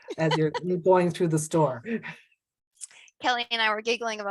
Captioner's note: laughs; laughs